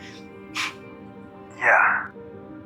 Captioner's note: June laughs